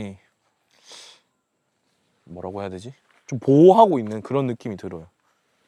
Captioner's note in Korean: 콧방귀